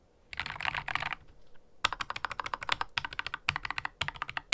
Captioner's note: keystroke sound